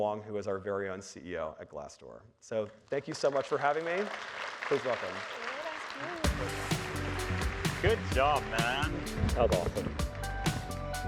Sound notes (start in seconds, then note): 6.6 audience applauding; 10.8 upbeat music